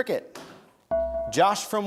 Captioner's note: bell rings